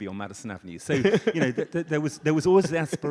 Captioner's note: audience laughs